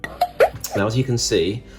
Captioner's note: silly sound effects